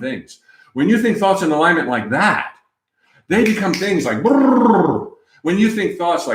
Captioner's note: snap, snap, snap